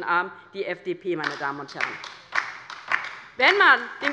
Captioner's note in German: Beifall bei der LINKEN